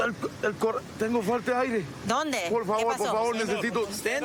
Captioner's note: speaking spanish